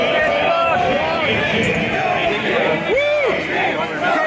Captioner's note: ”No Kings” Chant; ”Coloniel Sanders” Chant